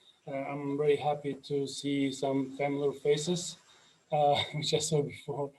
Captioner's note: laughs